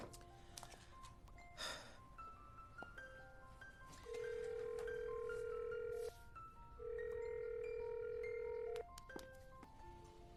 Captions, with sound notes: [sighs] [line ringing] You've reached Lauren. I'm not herere.ng. Ca.